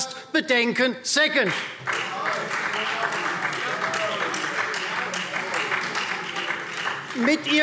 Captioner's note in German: Beifall Freie Demokraten